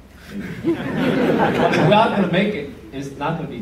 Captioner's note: laughter